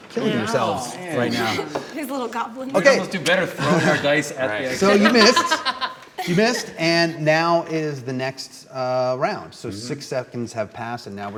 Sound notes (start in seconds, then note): 3.5 laughing